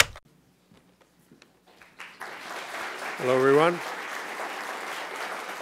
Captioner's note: applause